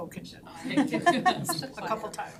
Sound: all laughing

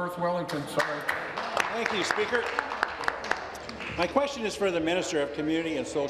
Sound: applause

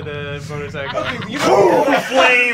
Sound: whooshes

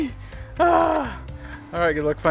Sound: groans

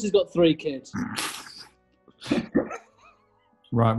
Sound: giggling

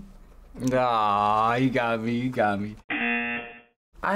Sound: buzzer

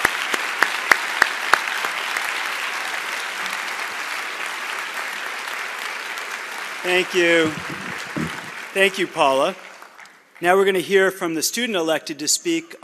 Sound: cheers and applause

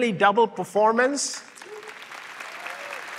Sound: applause

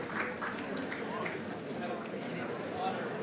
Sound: chatter

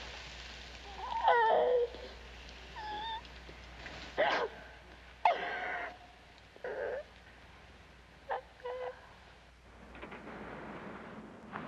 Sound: crying

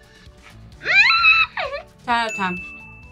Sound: laughs

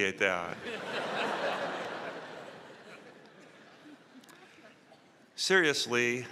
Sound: laughter

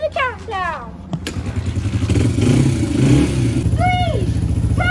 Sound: motorcycle revving

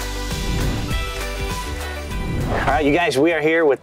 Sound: screen whooshes

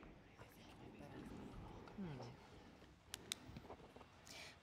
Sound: whispering

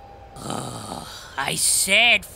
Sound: sighing

